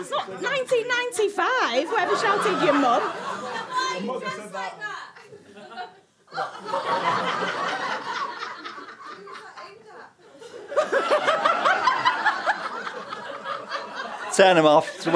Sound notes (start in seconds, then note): 6.3 audience laughter